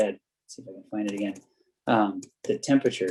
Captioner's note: keyboard clacking